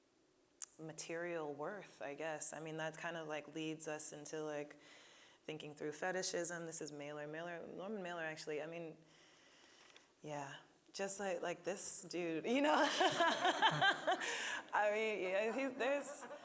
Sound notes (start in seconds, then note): 12.8 laughing